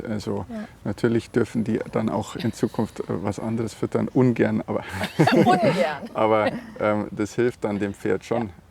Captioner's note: laughing